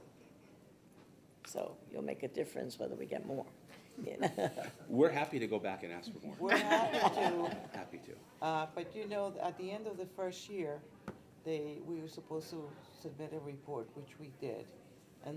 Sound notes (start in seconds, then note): 4.1 laughing; 6.4 people laughing